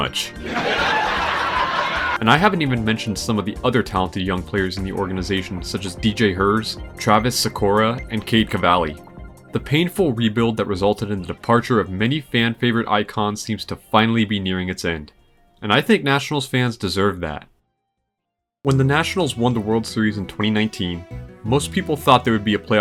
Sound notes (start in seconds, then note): 0.4 laughter